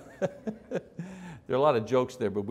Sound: audience chuckles

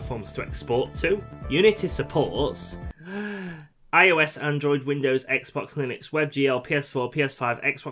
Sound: breath

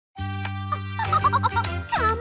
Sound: laughing

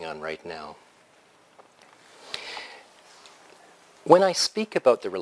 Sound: pause

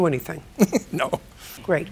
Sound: chuckles

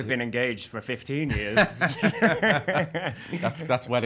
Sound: laughing

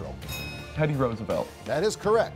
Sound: bell chimes

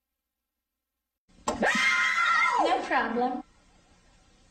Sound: kids screaming

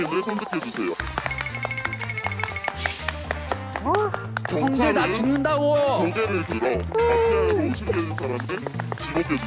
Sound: chattering

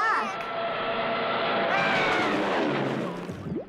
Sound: shrieks

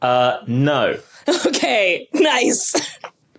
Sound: laughs

